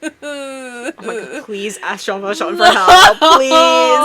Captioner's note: crying noises